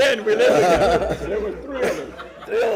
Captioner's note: laughter